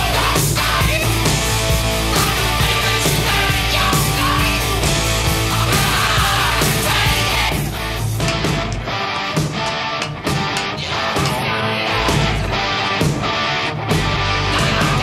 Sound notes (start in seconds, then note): 9.1 footsteps